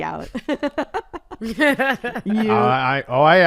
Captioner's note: laughs